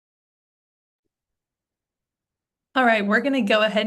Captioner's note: silence